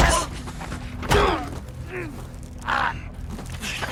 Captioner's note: both grunting